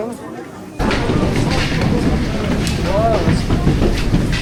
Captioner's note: people chatter